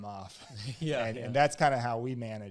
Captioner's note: both laugh